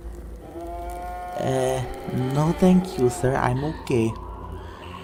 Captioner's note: dreadful moaning